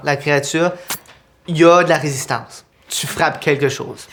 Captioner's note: sound of blades